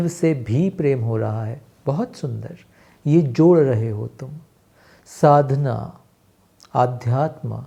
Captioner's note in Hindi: नाक से की जाने वाली आवाज़